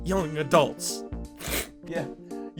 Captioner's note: sniffle